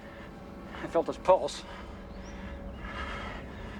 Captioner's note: panting